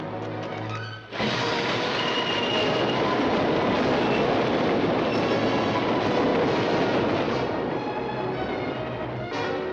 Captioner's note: dramatic music; train roaring; dramatic music